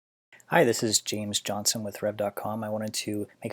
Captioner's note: voiceover